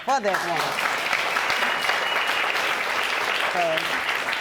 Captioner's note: audience applauding